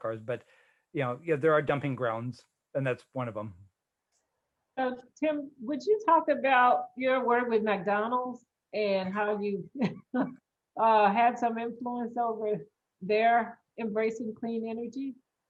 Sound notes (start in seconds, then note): 10.1 laughing